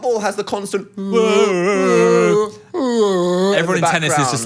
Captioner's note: both yelling